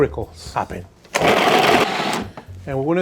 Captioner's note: blender whirs